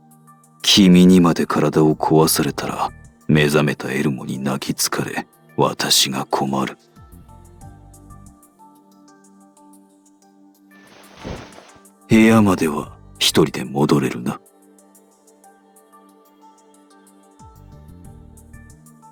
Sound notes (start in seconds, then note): 10.9 pat